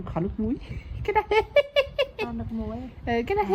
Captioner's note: laugh